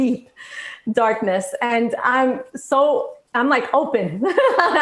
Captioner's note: laughs loudly